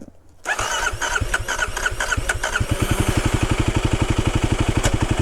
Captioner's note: bike wheels whirring